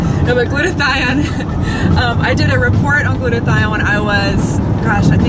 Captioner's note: laughs